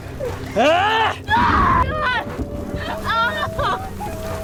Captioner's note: grunting; screaming